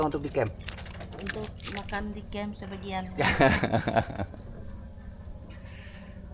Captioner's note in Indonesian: tertawa